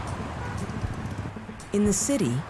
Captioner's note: car horn honks